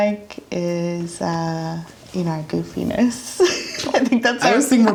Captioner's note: laughs